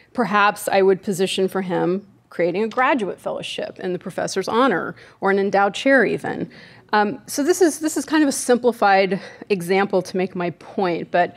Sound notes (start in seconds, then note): none